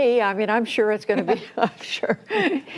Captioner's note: laughter